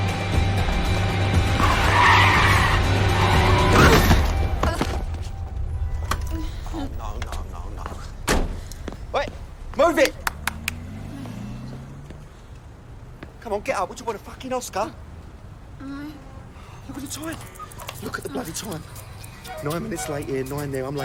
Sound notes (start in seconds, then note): 1.1 brakes screeching; 15.2 moaning